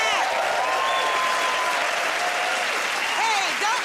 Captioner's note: cheers and applause